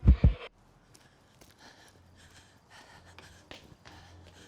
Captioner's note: person breathing